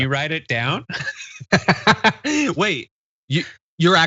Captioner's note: laugh